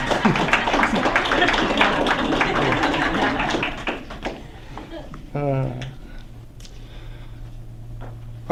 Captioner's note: applause